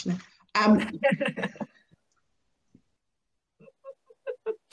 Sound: laughing

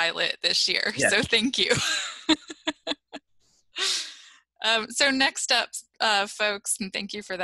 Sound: laughter

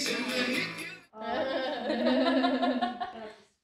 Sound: laughter

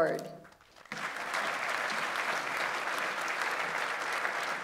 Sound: audience applauds

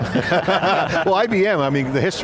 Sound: group laughing

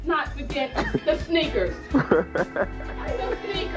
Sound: laughs

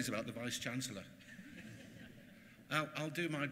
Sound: laughter

